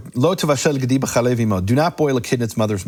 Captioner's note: speaking in foreign language